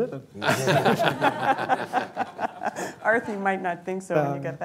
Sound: laughter

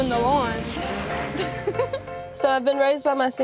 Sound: laughing

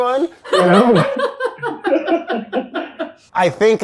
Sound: Elizabeth laughs

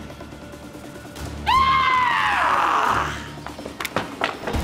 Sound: antwon screaming

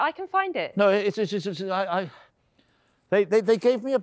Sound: stammering

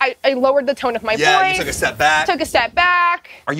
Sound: yelling louder

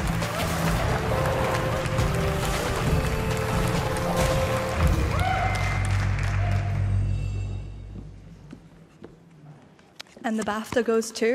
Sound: applause

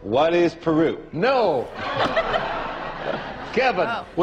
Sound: audience laughing

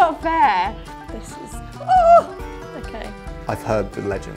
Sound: yelps

